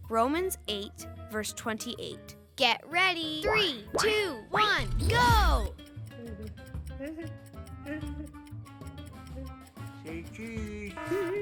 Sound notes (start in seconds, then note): 6.0 clock ticking